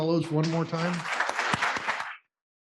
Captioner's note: applause